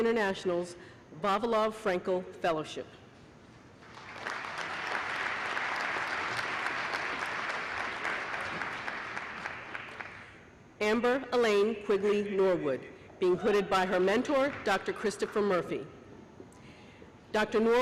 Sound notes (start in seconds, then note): 3.8 applause